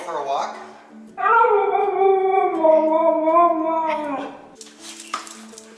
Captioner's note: Laska talking and howling